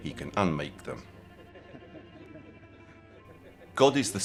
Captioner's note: Translator and Pier laughing